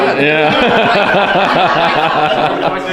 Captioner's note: laughing